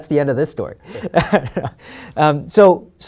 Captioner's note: laughs